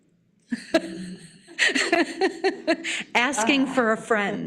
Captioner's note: laughing